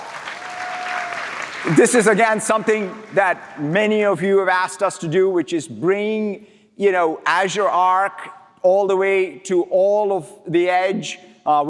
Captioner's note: applause